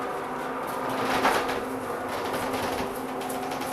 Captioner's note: shuffling sounds